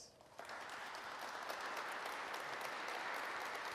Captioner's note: audience applauds